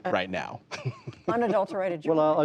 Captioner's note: laughter